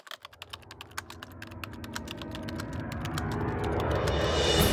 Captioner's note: typing sounds